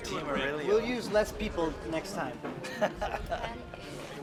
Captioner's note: chuckles